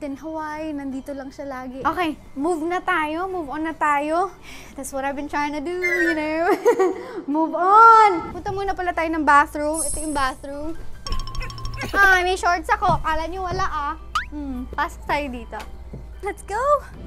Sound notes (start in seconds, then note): 6.5 chuckles